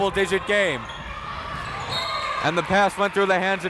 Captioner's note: whistle tweeting